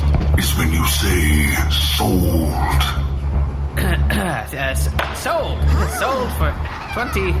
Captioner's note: coughs nervously